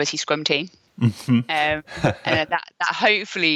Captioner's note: sighing